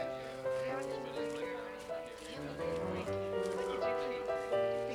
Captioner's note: people talking and laughing